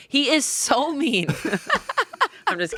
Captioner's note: all laughing